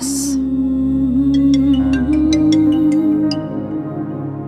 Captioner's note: Phone ringing